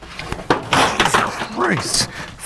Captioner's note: wood clatters